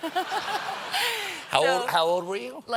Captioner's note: laughter